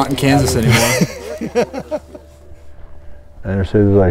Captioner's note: laughter